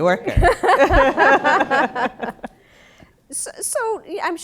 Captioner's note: laughter